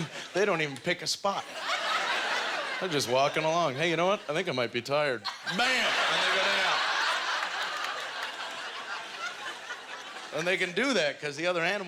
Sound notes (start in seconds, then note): 1.4 audience laughter; 8.3 audience laughter